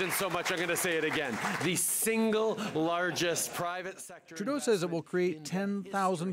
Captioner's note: applause